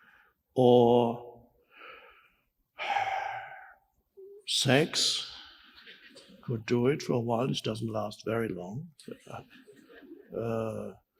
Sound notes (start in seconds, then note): 2.8 sighs